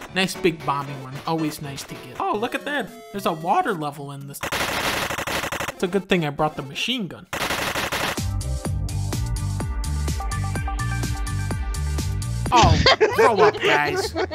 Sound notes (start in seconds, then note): 4.4 8-bit machine gun sound; 12.5 his friends are laughing in the background